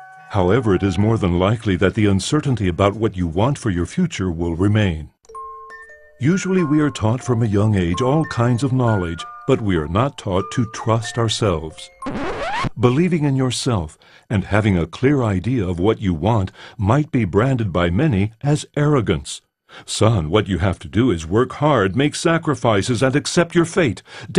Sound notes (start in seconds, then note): 12.0 record scratches